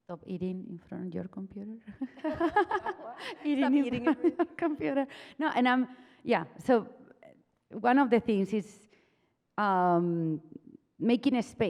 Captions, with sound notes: - Of eating in front of your computer? (laughs) - (chuckles) Stop eating it please. - So one of the things is making a space,